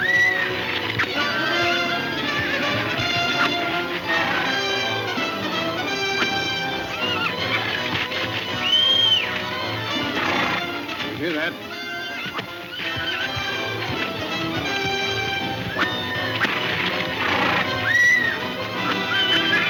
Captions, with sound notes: (Jim whistling) - You hear that? (horse neighing) (whip snapping)